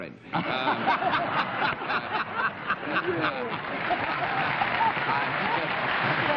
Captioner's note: laughter